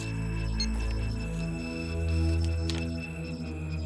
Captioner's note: recorder beeps